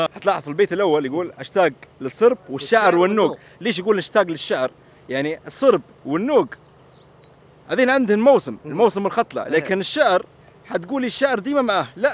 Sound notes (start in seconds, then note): none